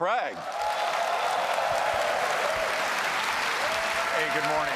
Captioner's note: applause